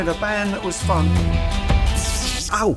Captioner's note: light saber sound